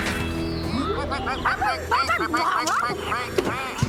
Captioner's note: ducks Quacking